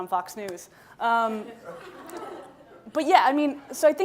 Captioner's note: laughing